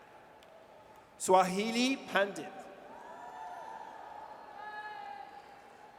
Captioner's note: audience cheers